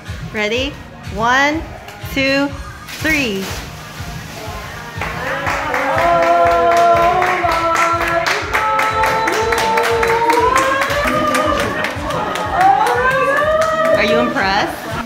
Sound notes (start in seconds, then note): 10.0 clapping and cheering